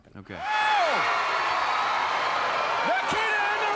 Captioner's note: crowd cheering